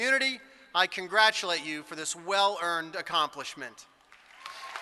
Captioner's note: applause